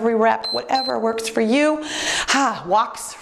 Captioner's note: timer beeps